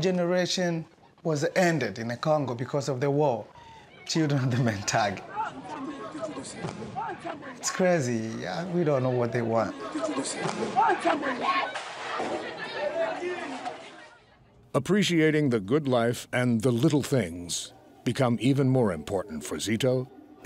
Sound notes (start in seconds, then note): 6.0 yelling